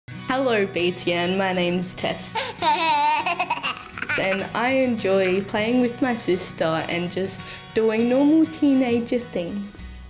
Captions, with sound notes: Hello, BTN, my name's Tess. (LAUGHS) And I enjoy playing with my sister and just doing normal teenager things.